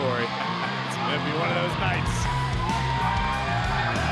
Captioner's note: laughs